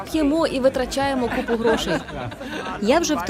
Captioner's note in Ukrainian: сміх